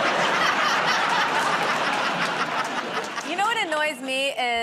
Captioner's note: laughter